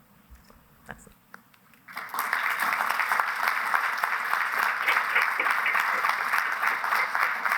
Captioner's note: applause